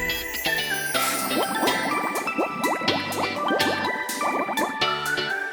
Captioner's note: bubbles